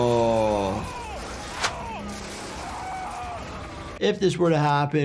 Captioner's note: groans